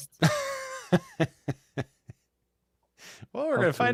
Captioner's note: laughs